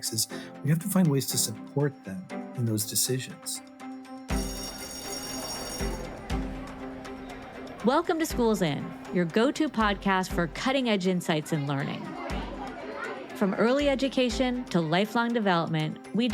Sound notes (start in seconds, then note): 4.2 bell ringing; 4.4 bright music; 11.0 student chattering